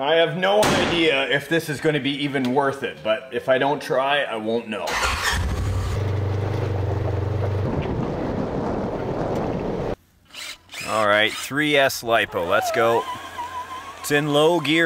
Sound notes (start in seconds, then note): 4.8 engine starts; 4.9 engine whirring; 12.2 electric motor revs